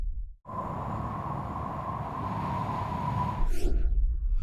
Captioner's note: high speed wind; swoosh